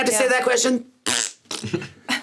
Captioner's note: blows raspberries; SungWon and Sarah laughing